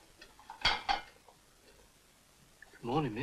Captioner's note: plate clatters